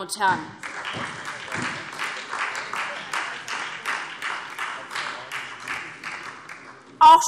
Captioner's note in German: Beifall SPD und vereinzelt DIE LINKE